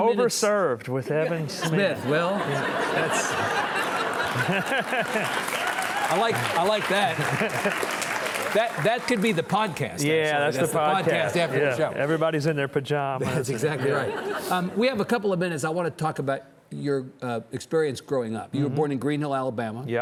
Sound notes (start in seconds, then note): 4.0 all laughing; 5.5 audience cheering